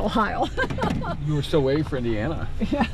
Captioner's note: laughing